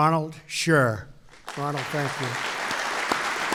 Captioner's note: applause